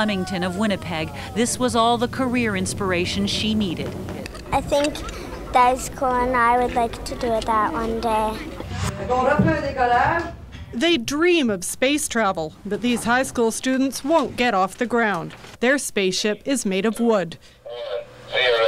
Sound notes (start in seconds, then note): 8.6 whoosh